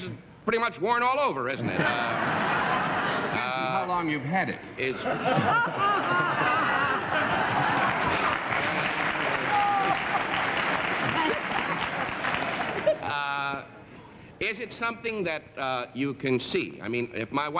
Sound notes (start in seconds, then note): 6.7 laughter